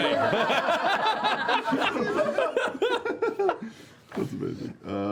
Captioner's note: laughter